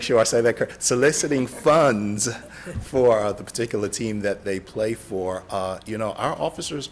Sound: laughter

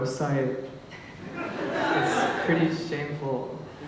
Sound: laughter

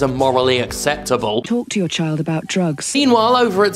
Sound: Robotic voice

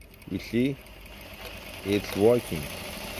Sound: machine whirs

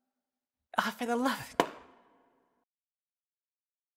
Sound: popping sound

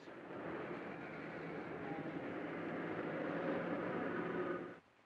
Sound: city street sounds

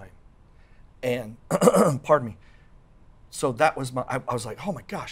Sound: clears throat

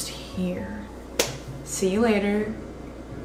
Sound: claps

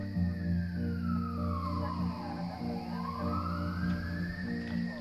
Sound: siren wails; police radio chatter

